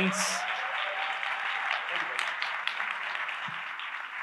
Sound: audience applauds

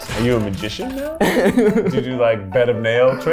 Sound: laughs

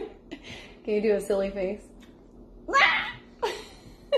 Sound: squawks

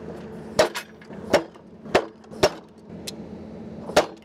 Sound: machine slaps

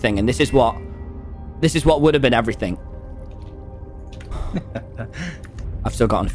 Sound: laughs

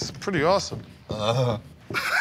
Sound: Joe moans; Murr laughs

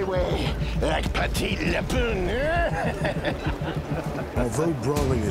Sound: laughs

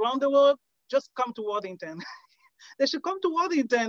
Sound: laughs

